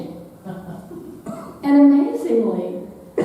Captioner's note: audience laughing